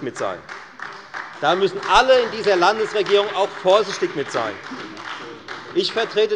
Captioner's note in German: Beifall bei der FDP und der SPD